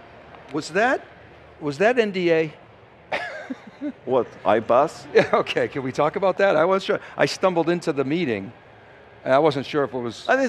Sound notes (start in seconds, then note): 3.1 laughs